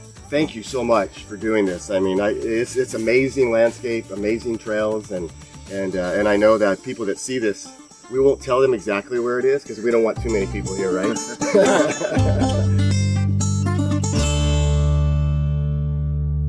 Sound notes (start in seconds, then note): 11.1 group laughing; 12.6 lively instrumental music